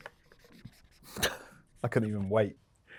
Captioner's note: marker scratching; Luke scoffs